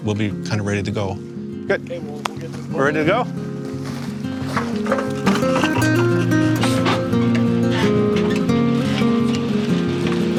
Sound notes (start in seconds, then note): 3.6 boat clanks; 4.5 gentle guitar music